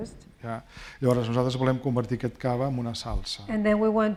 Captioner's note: speaking spanish